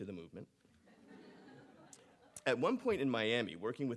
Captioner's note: audience laughing